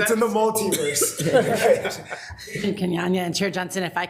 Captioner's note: attendees laughing